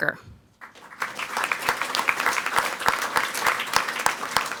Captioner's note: people clapping